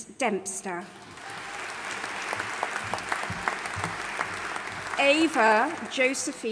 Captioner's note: audience applauding